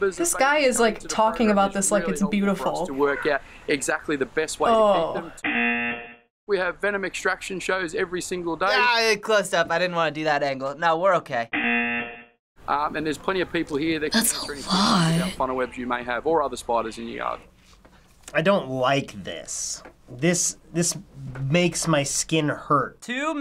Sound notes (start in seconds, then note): 5.4 buzzer rings; 11.6 buzzer rings